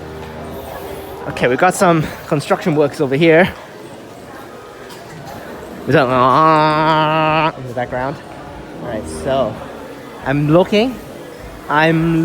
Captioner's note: drilling sounds